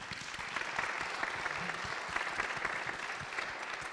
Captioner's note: audience applauding